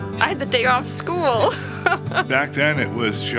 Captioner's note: laughing